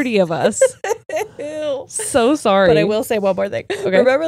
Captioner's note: laughs